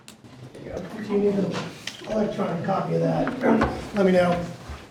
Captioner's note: speaking faintly